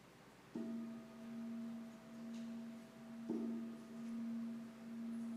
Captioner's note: bell ringing